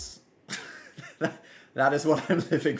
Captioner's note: laughs